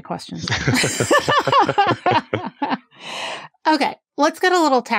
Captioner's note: laughs